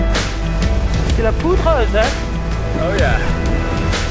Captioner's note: speaking in French